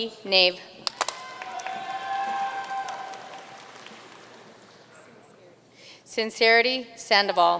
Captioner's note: audience cheering and applauding